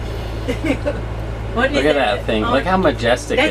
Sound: laughing

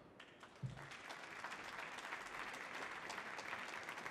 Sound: audience applauding

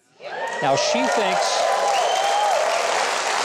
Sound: audience cheering

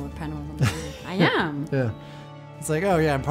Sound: laughing

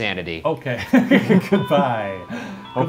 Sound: laughs

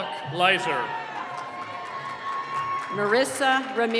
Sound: cheering

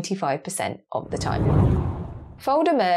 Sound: air whooshing

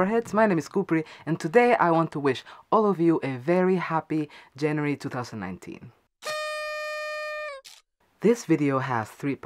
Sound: party horn

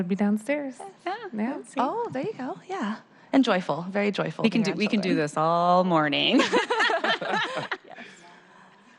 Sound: laughter

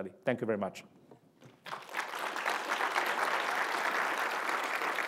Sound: applause

